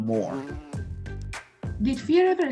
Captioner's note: bee buzzing